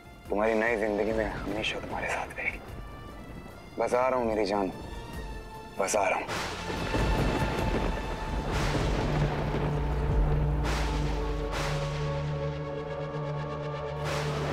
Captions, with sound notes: will always be with you in your new life. I am coming, my love. (thundering)